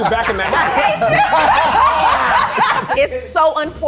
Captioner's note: all laughing